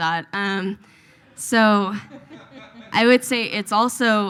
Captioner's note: audience laughs